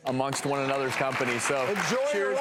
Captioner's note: applause